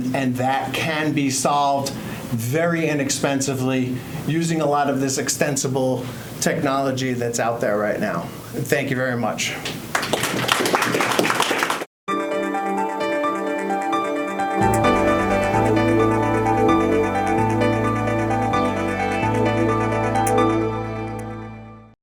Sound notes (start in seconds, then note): 9.9 audience applauds; 12.7 bright music